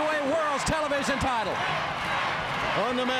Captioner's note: crowd cheering